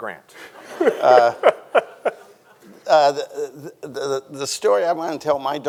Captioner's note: Ta-Nehisi laughs; audience laughing; audience chuckling